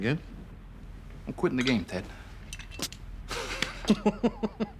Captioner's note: laughing